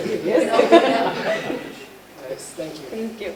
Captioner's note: laughter